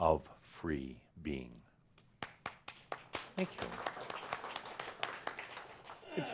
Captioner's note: start clapping, and is joined by the audience